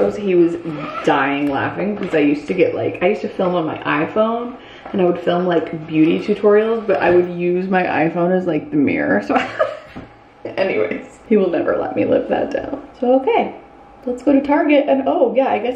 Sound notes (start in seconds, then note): 9.3 laughs